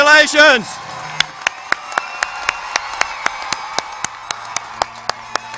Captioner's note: cheers and applause